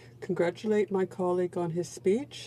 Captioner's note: speaking French